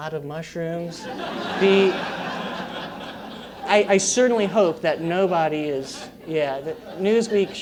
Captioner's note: laugh